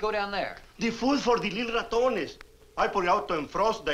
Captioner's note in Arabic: يتحدث الإسبانية